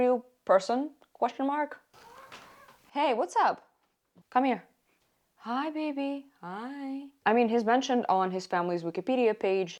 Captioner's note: meow